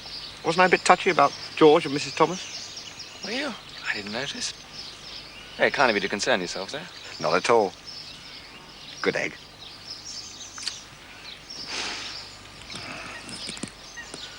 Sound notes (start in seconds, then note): 11.6 inhales deeply